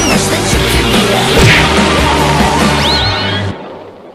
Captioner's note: crash!